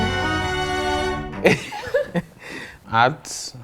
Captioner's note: laughs